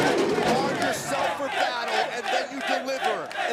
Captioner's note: crowd chatter